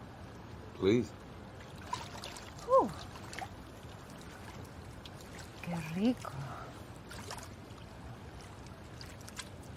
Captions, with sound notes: Please. Woo! [speaking Spanish] Que rico.